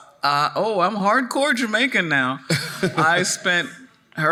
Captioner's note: chuckling